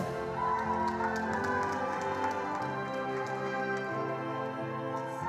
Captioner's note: attendees applauding